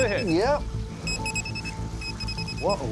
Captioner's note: rapid beeping